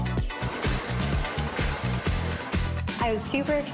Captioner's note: hair dryer whirs